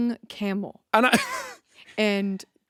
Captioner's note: chuckles